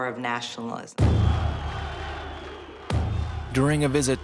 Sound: gunshots and shouting

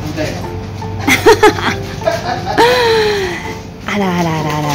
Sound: laughs

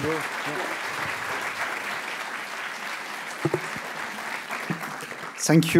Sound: applause

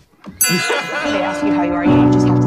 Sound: laughter begins before quickly fading out

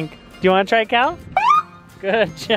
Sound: siren screeches

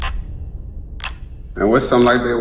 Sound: clock ticking

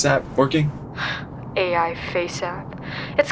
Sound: scoffs

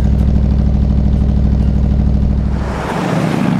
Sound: car engine

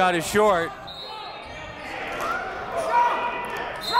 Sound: whistle

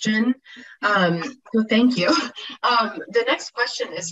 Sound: laughs

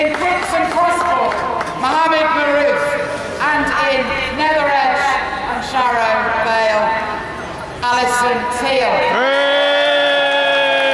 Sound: loud cheers

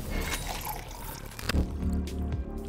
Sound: coffee pouring; gentle music

